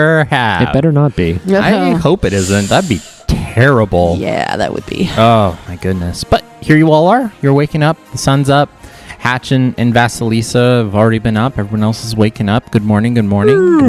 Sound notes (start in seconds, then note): 1.2 laughs in agreement